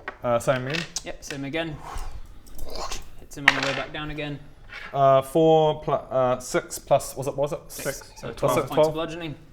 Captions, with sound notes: uh same again? yep, same again *whooossch* hits him on the way back down again 4 + er 6 + what's it? 6 so 12 points of bludgeoning